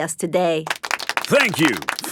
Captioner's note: applauding